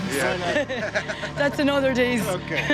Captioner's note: both laughing